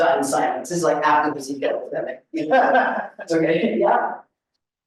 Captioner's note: laughs